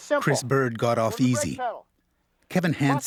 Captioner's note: voiceover